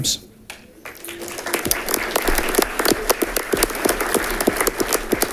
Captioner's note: audience clapping